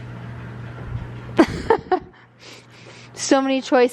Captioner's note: laughs